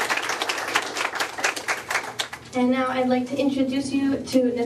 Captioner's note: applause